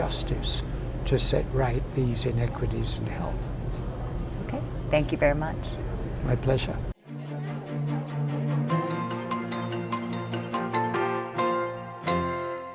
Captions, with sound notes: to set right these inequities in health. - Okay. Thank you very much. - My pleasure. (people talking) (upbeat music)